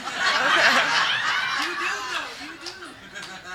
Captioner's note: group laughing